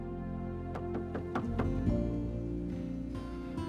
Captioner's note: knocking on door